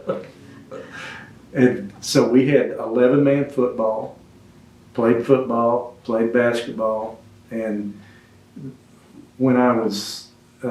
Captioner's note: laughs